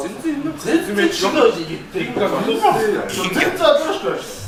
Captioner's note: laughs